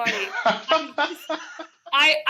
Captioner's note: laughs